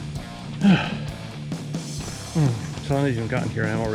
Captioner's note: breathes heavily; sighs